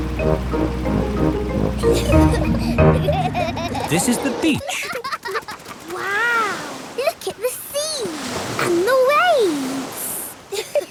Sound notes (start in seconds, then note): 1.8 children giggling